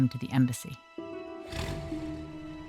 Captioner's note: car engine starts